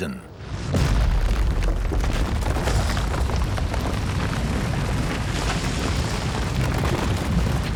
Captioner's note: rocks falling